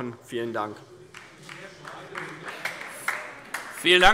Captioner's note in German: Beifall DIE LINKE - Zurufe BÜNDNIS 90/DIE GRÜNEN